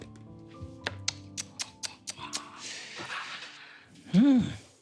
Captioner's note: tongue clicking